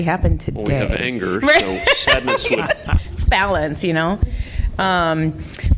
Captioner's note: laughter